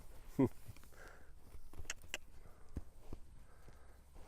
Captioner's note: clicks tongue